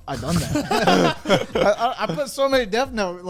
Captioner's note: men laugh